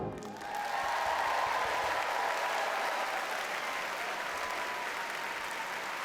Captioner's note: audience cheers and applauds